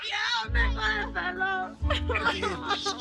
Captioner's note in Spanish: Hablan al unísono; Jenni habla entre dientes; Sollozos